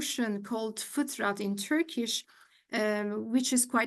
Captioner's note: speaks in Turkish